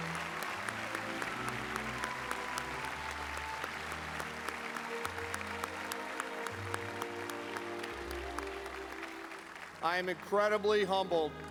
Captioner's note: applause